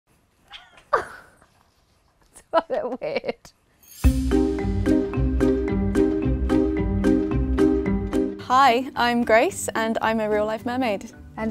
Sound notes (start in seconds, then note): 0.6 laughs; 3.9 mischievous music